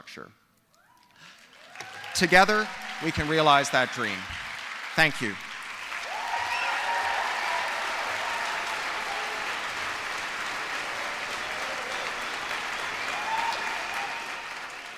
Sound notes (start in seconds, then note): 0.7 applause; 7.0 applause